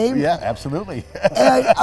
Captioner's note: laughs